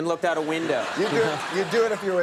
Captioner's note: audience laughs